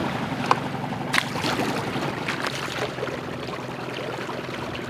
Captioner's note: water splashing